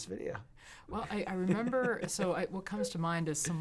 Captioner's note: laughs